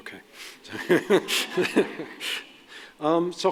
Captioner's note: laughter